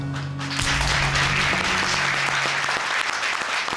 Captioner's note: audience applauding